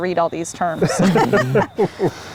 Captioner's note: group laughs